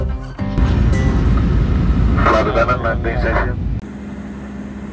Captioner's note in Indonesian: captain voice: Flight attendant landing station